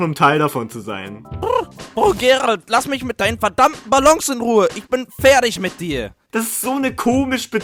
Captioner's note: neighs